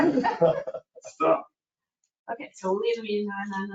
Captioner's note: laughing